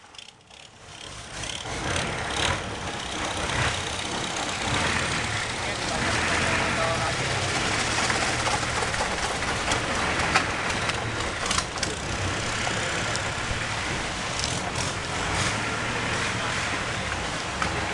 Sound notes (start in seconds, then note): 0.9 engine Sound